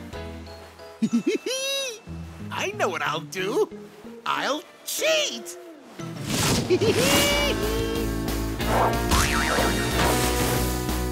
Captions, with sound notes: [laughing] I know what I'll do. I'll cheat! [laughing] [suspenseful music playing]